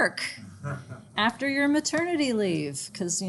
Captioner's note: students laugh